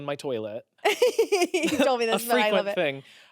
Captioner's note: laughs